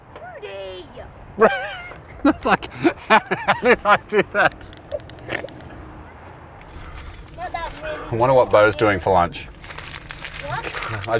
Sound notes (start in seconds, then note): 1.3 laughing